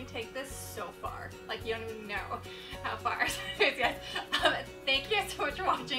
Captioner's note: laughs